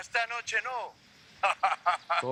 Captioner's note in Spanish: Risas